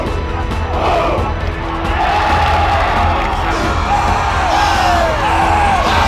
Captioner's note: shouting